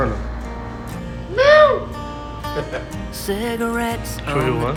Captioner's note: imitating a cat's voice